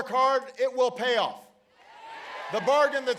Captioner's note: applause